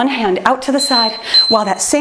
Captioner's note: timer beeps